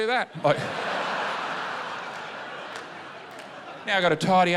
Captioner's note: laughter